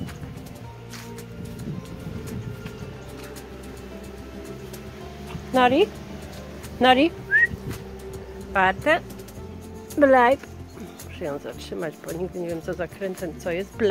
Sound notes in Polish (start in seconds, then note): 7.2 gwizdnięcie na psa